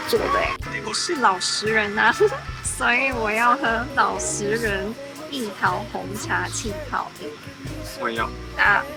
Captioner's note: chuckles